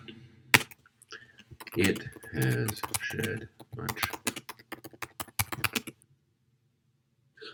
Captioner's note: typing